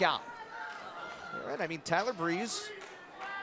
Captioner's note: crowd chatter